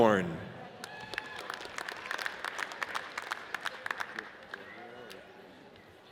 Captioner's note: audience cheers and applauds